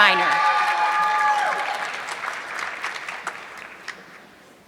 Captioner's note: audience clapping